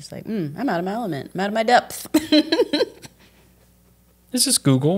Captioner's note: laughs